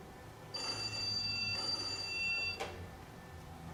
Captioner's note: telephone call